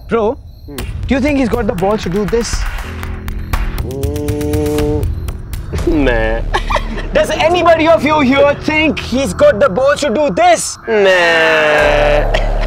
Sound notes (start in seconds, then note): 5.8 laughs